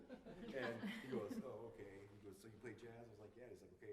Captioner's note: laughter